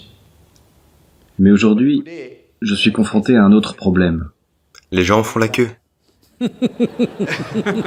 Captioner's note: laughs